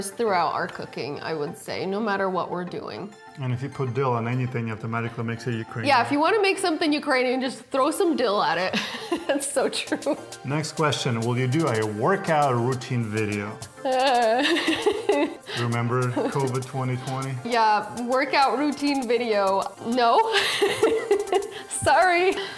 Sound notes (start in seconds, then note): 8.9 laughing; 13.8 Natasha laughing; 20.0 laughing